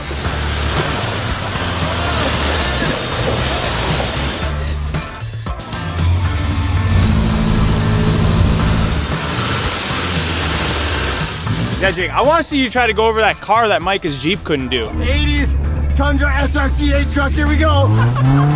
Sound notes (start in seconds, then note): 0.0 laughing; 2.1 yelling